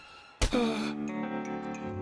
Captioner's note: sighs